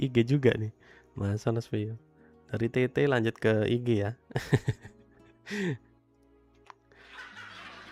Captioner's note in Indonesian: tertawa